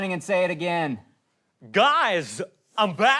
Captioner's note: christopher walken imitation